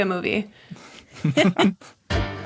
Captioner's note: group snickering